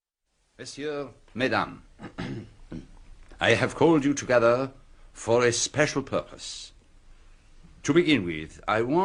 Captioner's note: clears throat